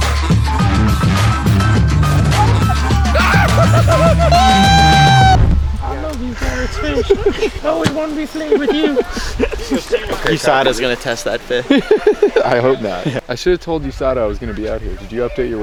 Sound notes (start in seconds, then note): 1.9 yells; 4.6 cheers